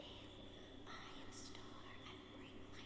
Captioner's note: whispers